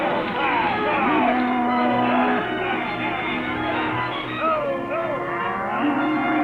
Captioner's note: cattle low